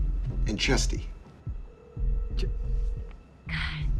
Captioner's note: phone ringing